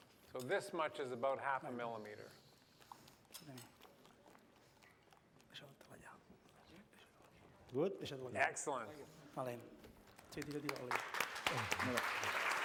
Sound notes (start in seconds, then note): 9.7 non-english; 10.1 applause